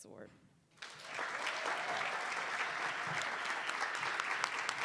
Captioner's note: attendees applauding